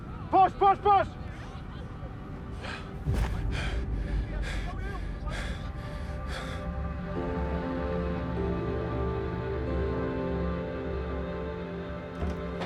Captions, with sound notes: Push, push, push! - (BREATHES HEAVILY) (MELANCHOLY MUSIC)